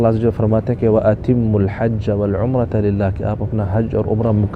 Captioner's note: Arabic